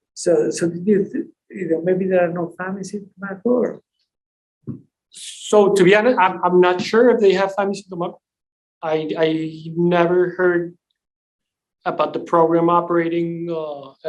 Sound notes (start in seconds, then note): 7.8 voice distorts